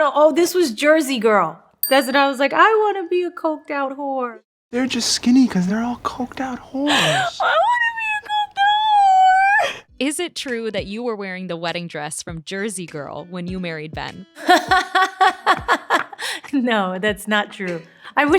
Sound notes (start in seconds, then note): 1.8 bell dings; 14.4 Jennifer laughing